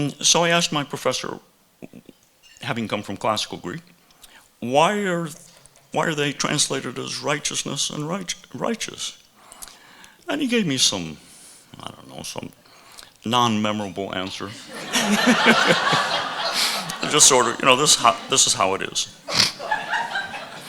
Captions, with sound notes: So I asked my professor, having come from classical Greek, why are they translated as righteousness and righteous? And he gave me some, I don't know, some non-memorable answer. [audience laughing] Just sort of, this is how it is.